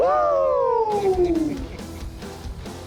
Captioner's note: laughs